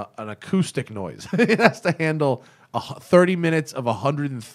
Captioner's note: laughter